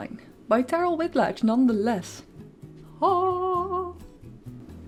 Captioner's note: excited vocal sound